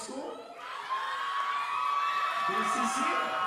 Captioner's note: audience cheering and applauding